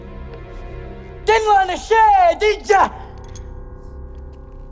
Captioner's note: wrench rattles